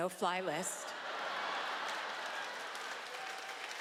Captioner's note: laughter